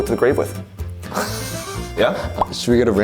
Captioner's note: laughs